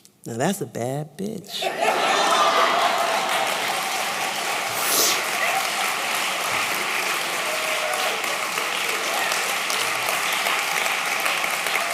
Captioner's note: applause